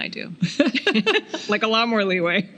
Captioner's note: laughing